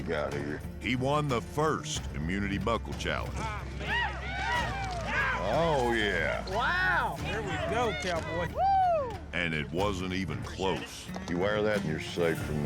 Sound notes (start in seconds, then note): 4.2 hoof beats, cheering